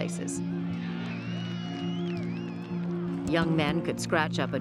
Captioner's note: crowd cheering